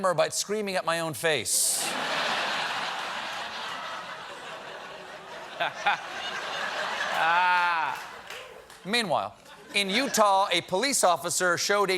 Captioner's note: laughter